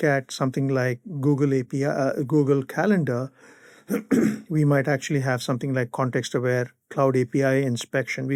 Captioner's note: clears throat